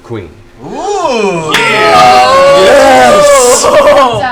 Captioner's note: cheering